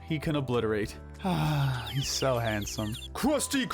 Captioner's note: sigh